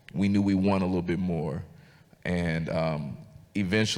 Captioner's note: none